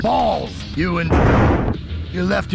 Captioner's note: convenient thunder